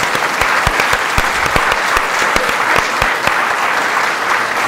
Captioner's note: audience applause